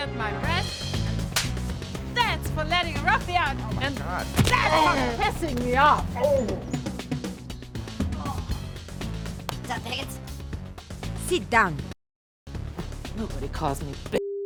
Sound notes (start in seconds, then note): 1.3 slaps; 7.4 high-pitched voice